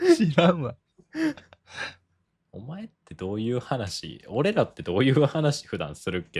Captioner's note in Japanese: 笑い; 息をのむ音